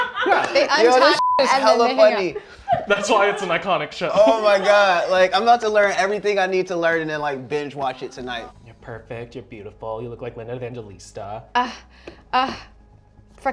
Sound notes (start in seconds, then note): 1.0 beep